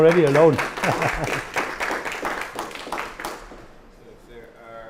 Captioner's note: applause